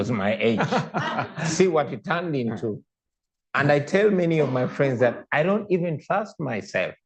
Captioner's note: laughter